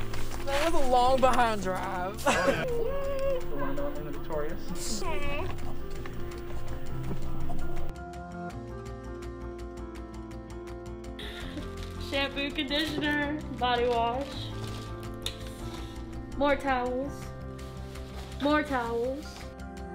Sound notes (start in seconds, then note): 2.2 laughing; 2.3 people chattering; 3.2 soft music